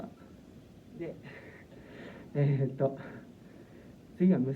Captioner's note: being out of breath